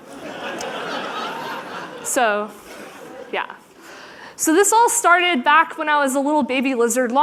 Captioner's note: laughter